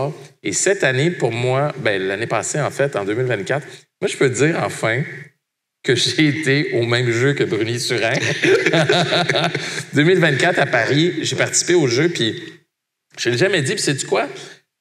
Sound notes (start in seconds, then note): 7.9 laughs